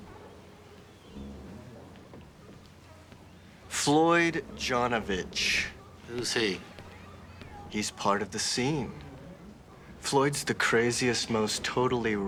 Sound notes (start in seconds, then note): none